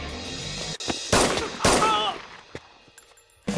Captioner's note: Gunshots